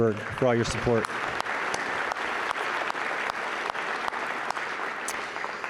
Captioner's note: audience applauds